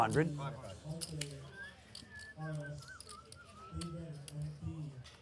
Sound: whistling

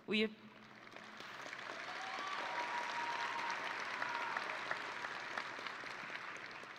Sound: audience and graduates applauding

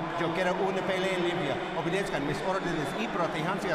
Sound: speaking Spanish

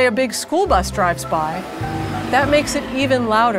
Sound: school bus engine

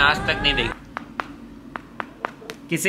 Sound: knocking sounds

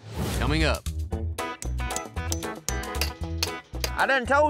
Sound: hammering

